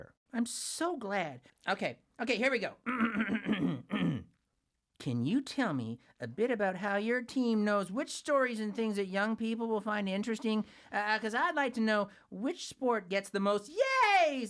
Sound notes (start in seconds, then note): 2.8 coughing